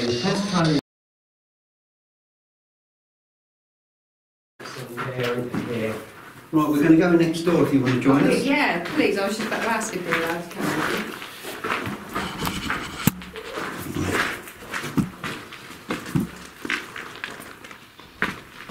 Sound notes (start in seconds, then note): 12.6 footsteps crunching